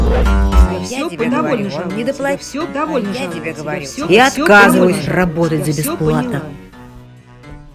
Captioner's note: criminals chatting